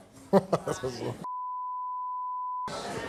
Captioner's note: Steve laughs